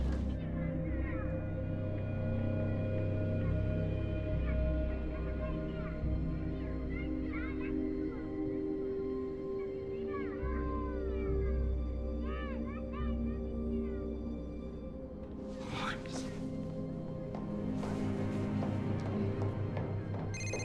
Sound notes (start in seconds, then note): 0.5 dramatic music; 4.4 children playing; 17.7 dramatic music